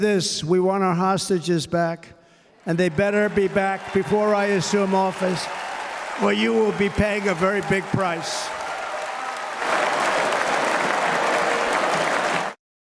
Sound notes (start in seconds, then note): 8.0 cheers and applause; 12.6 applause